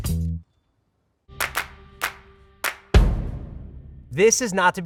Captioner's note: hand clapping